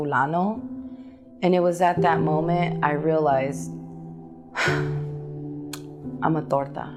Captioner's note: sighs